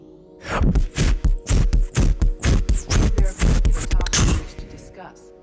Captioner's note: beat boxes